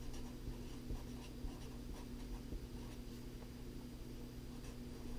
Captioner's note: pen writing on paper